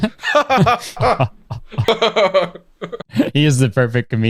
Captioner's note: fake laughs